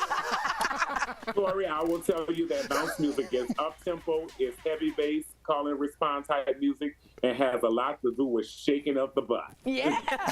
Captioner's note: laughter